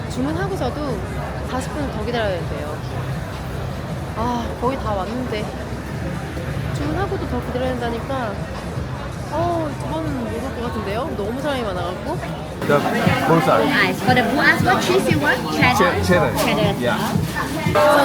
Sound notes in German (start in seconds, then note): 12.6 lacht